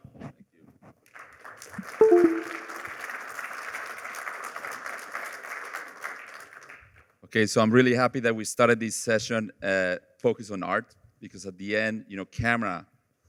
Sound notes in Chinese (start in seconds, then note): 1.0 掌声; 2.0 系统声